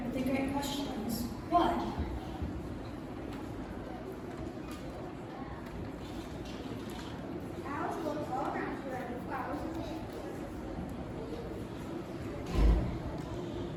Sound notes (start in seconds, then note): none